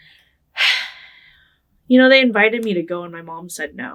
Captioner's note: sighing